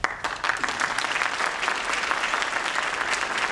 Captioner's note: applause